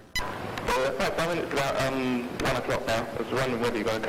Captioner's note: voiceover